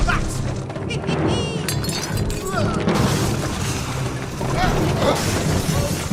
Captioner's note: crashing and ransacking